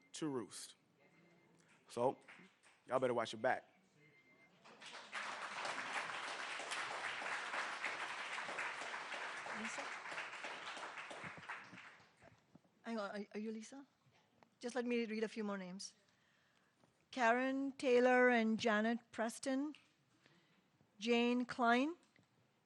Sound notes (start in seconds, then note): 8.7 applause